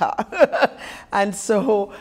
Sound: laughter

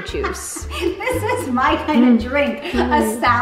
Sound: laughing

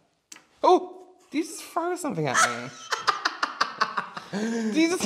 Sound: laughing

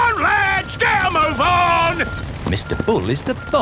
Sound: none

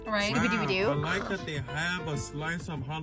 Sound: chomps

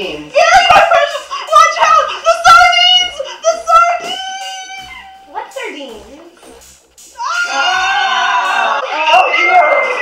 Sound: screaming

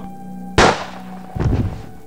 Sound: shot

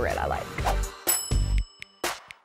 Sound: bell chimes; gentle upbeat music

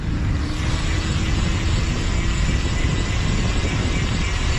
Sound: gears whirring

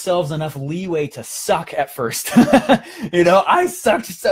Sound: laughing

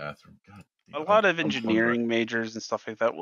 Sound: grumbles

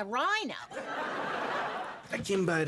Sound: audience laughing

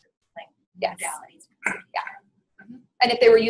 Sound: voiceover

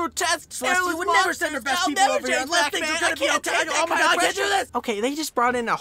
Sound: they argue loudly

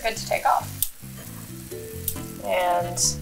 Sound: waffle iron sizzling

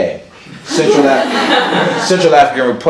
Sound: laughs

